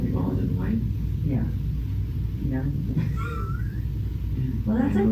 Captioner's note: chuckles